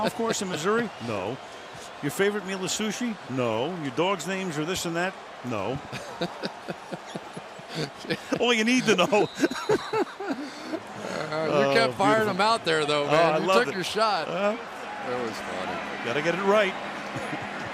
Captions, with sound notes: Hey, you own a golf course in Missouri? No. Your favorite meal is sushi? No. Your dog's names are this and that? No. [laughs] All you need to know. You can't fire him out there, though, man. You took your shot. That was funny. They got to get it right.